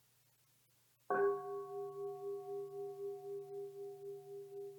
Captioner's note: bell gongs